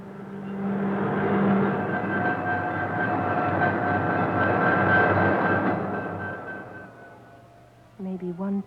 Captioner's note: train rattling